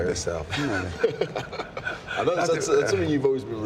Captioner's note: Wade and Sheamus laugh